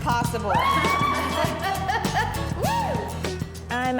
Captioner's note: daters cheering